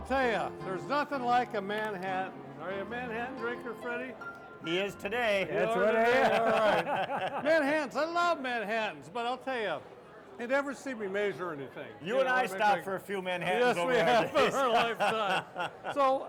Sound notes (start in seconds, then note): 5.5 all laughing; 14.0 laughing